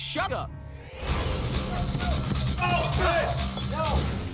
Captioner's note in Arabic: قتال، صراخ